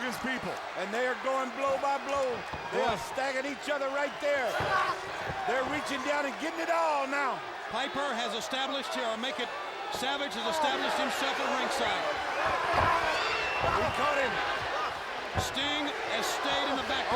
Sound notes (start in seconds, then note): 13.1 crowd cheering